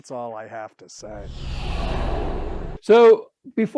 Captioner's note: air whooshing